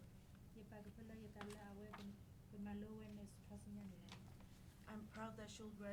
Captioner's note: speaking in foreign language